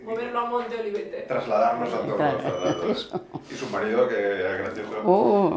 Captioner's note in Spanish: Risses